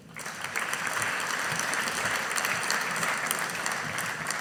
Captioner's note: audience applauding